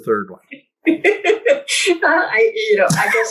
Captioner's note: laughs